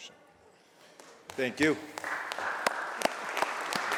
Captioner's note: applause